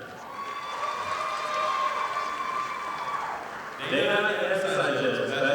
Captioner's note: audience applauding